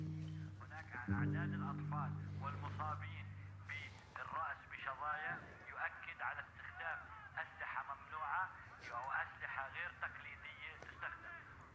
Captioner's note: arabic on TV